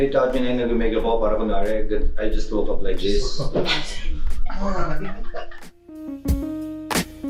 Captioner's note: laughs